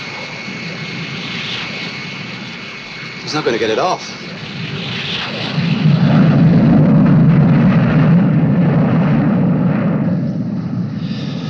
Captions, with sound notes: He's not gonna get it off. (wind whirring)